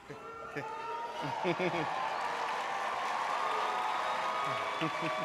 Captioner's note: audience cheering